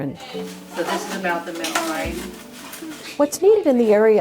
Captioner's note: classroom noise